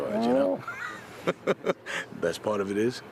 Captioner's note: chuckles